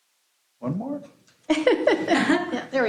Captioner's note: laughter